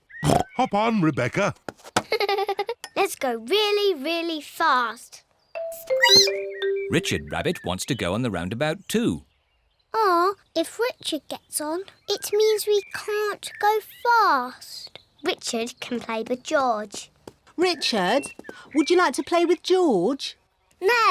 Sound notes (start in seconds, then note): 1.8 giggles; 6.0 squeaks